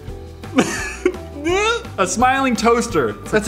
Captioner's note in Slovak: smiech